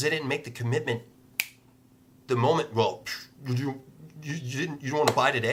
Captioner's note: snap